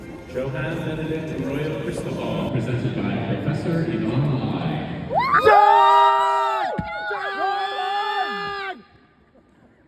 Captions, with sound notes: Johan Benedict Arroyo Cristobal presented by Professor Yvonne Lai! [family cheers]